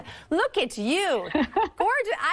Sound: giggles

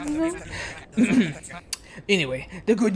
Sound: clears throat

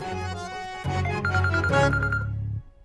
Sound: phone ringing

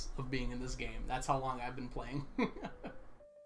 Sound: laughs

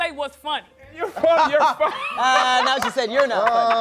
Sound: laughing

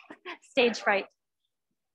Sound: laughs

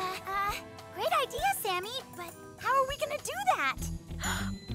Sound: gasps

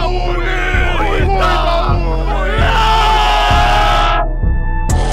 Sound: unanimous groaning

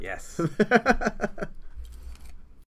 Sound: laughs

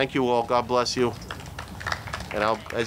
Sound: audience clapping

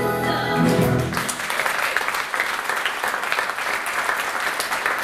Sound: applause

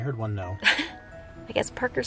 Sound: chuckles

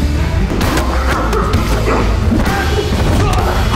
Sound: grunts

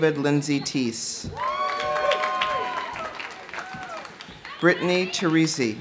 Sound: audience cheering; audience applauding

